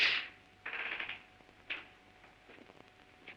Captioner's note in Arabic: صرير الباب